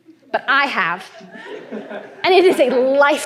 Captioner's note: laughter